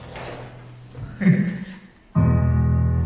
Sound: giggled

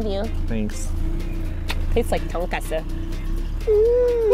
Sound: kisses

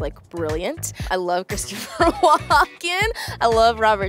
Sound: laughing

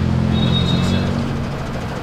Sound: loud traffic

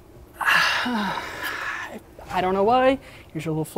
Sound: sighs

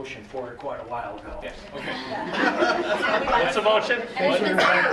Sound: laughter

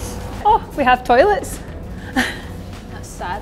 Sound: laughter

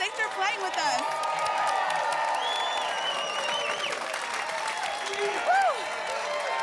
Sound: applause

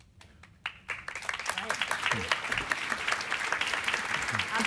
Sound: audience applauding

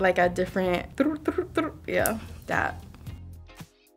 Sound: tongue trilling; jazzy music

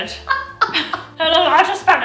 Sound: laughs

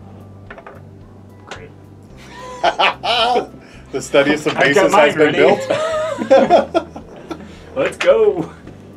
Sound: laughing

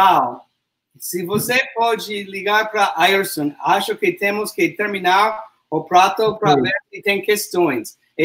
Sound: speaks portuguese

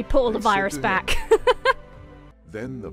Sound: laughs

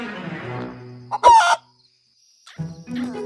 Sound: squawk

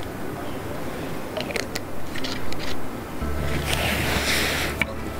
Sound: sound of closing the bottle

